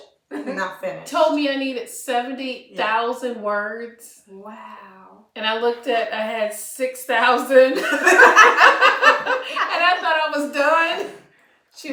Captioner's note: laughter